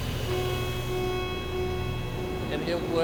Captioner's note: alarm blares